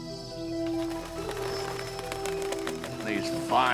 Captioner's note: fluttering